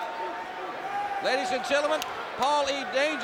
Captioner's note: crowd chatter